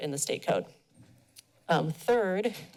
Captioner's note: pause